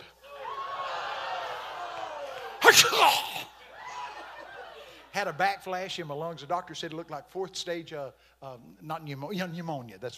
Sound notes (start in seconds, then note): 0.2 congregation laughing; 2.6 coughing